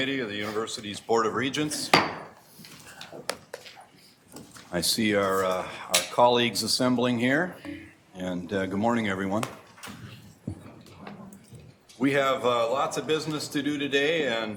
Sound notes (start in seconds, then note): 1.9 gavel strike